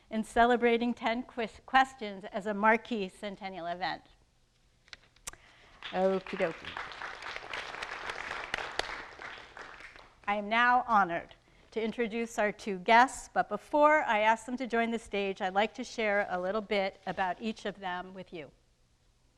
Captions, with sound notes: in celebrating "10 Questions" as a marquee centennial event. Okeydokey. (audience applauding) I am now honored to introduce our two guests, but before I ask them to join the stage I'd like to share a little bit about each of them with you.